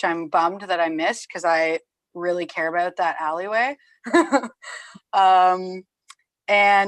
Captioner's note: laughs